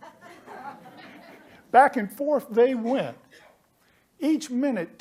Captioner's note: laughter